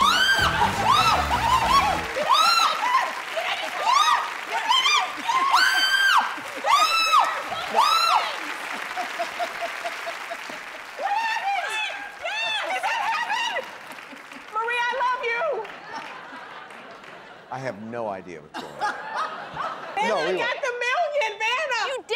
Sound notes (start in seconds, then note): 0.0 screaming; 6.6 screaming; 8.4 laughter; 15.7 laughter